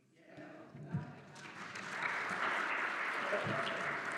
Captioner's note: applause